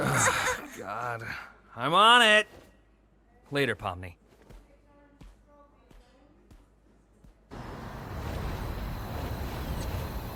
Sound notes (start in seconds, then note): 0.0 laughs; 7.6 insects chirping